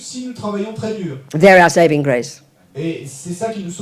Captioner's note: speaking in French